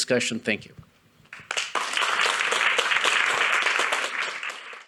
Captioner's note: audience applauding